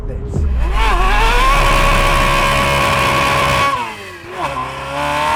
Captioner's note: engine revving